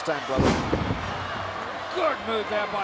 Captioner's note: wrestlers thudding